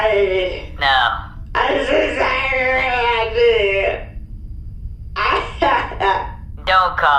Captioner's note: sobbing